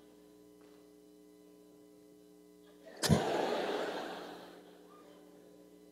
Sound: laughter

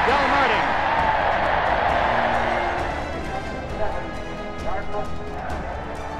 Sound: cheers

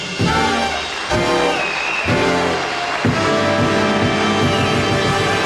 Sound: audience applauds

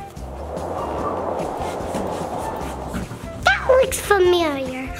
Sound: wind blowing

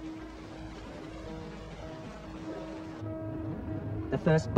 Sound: water splashing

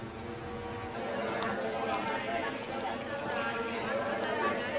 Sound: chattering

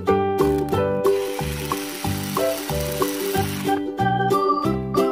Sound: drill noise

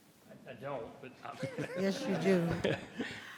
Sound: members laughs

